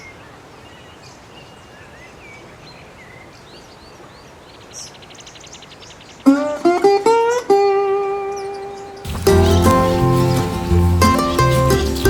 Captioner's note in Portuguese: Ruídos urbanos